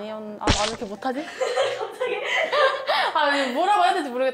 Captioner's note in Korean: 웃음